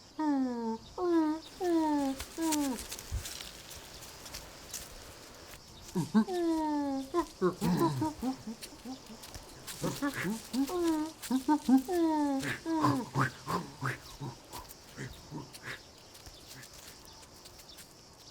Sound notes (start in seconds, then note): 0.3 neanderthal grunting; 6.9 grunts